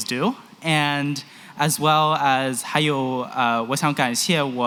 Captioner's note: non-english